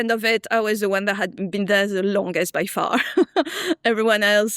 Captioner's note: laughs